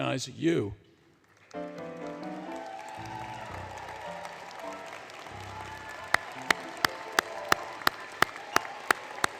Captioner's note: applause, Music; applause